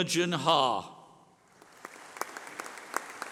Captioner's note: applause